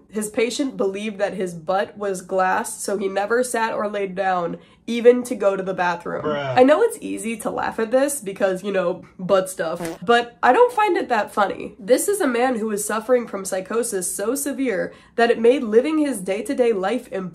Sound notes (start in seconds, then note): 8.8 mocking tone; 9.7 fart sound